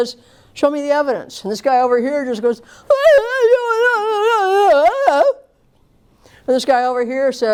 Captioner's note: crying, gibberish